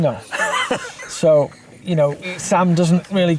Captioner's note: chuckles